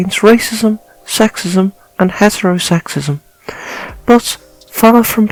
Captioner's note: none